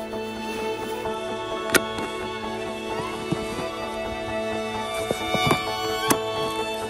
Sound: clipping sound

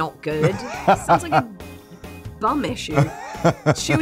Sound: laughing

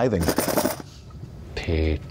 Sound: coins clinking

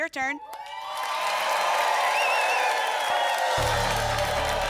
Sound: applause

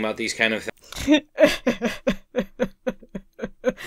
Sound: fake-cries

